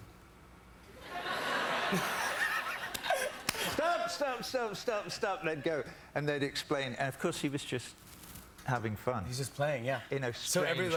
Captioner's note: laughter